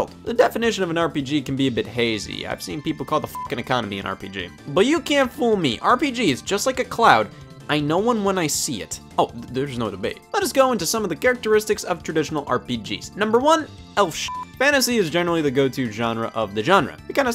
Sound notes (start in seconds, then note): 3.3 beep; 14.2 beep